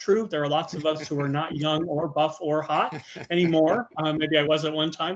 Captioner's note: laughing